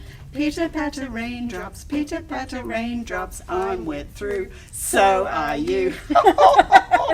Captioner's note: haha!